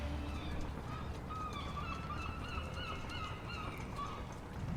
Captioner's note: sea birds caw